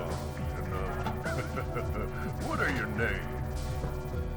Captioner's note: laughs